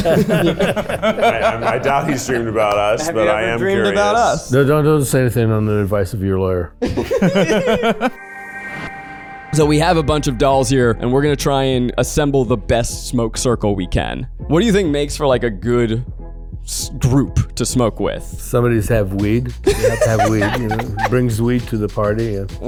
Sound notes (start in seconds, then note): 0.0 Cheech laughs; 6.8 group laughs; 7.8 logo rings; 19.6 laughs